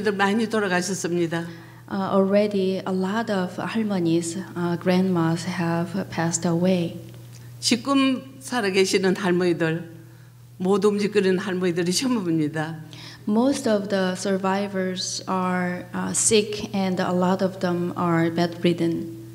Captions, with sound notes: (speaking foreign language) Already a lot of our grandmas have passed away. (speaking foreign language) Most of the survivors are sick, and a lot of them are bedridden.